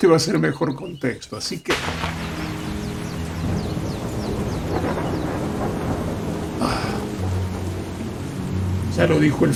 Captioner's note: sound of thunder